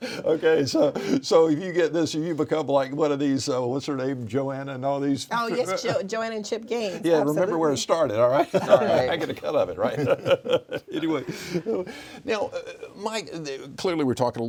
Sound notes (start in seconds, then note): 9.8 laughing; 9.8 laughs